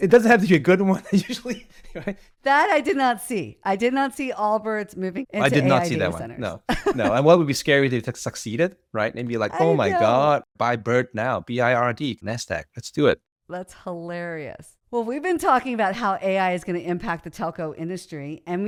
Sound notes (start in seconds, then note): 6.7 laughs